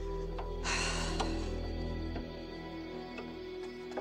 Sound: heavy sigh

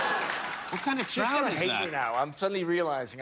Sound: cheers and applause

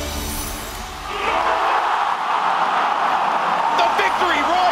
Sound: crowd cheering

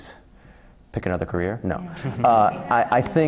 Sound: laugh

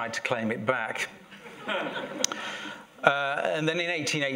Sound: laughter

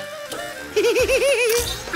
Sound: giggling

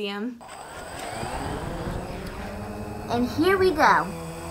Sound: Sky Drone whirring

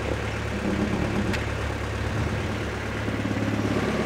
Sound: wood scraping

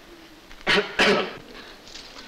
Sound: clears throat

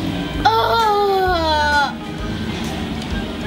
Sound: whining

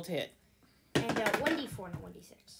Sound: die rolling noises

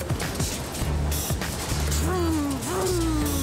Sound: vrooming

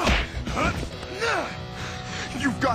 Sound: grunting

